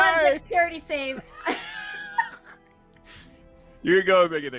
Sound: both laughing

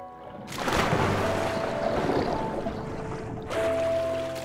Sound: water splashing

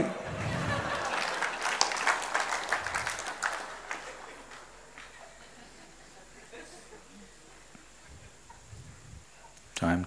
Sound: laughter/Applause

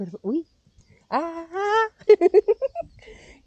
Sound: laughing

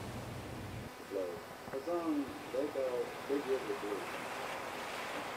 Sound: radio broadcast plays

